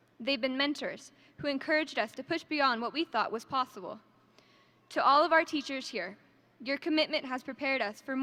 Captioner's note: none